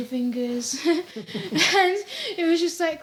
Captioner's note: chuckles